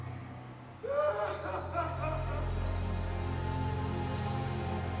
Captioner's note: Robert crying